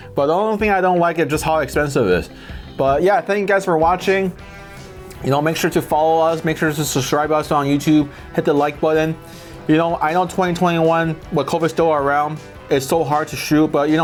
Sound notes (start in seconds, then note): none